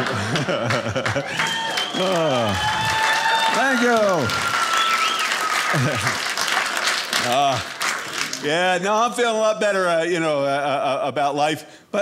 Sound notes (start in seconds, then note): 0.5 audience applauding; 4.8 audience applauding